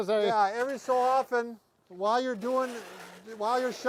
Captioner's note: shovel scraping